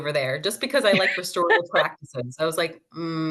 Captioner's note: laughs